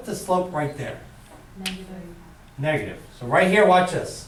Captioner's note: voiceover